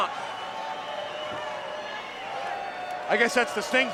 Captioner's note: crowd cheering